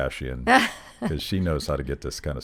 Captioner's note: laughing